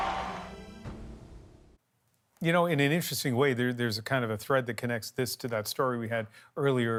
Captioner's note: cheers and Applause